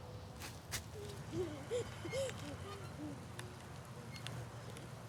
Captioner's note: child chuckling